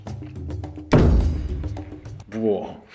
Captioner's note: thud